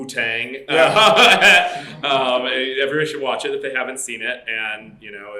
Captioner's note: laughs